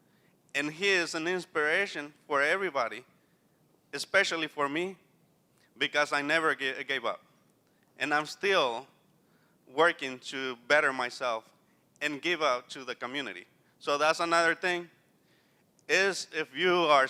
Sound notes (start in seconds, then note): none